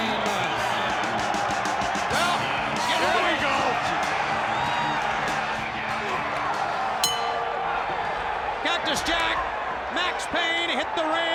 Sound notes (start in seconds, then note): 0.2 crowd cheering; 4.2 crowd cheering; 5.0 bell ringing